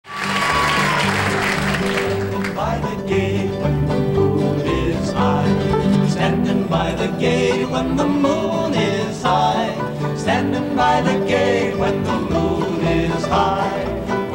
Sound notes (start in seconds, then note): 0.0 audience applauds; 1.7 upbeat bluegrass music